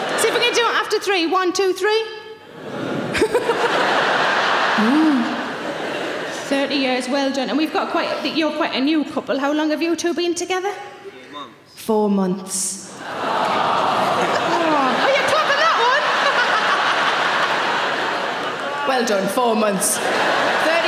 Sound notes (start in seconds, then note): 2.5 audience huh; 13.0 audience awws; 16.1 Sarah laughs